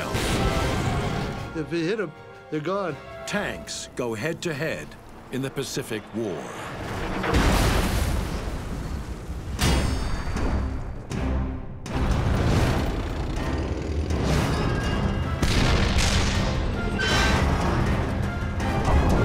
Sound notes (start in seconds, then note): 0.1 landmine exploding; 7.2 tank thudding in gravel; 9.5 dramatic ominous instrumental music; 12.0 tanks rumbling; 15.4 cannon shots exploding